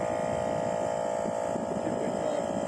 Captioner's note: compressor running